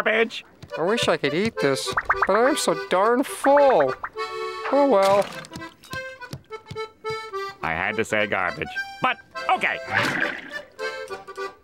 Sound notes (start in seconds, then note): none